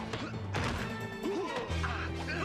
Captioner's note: grunting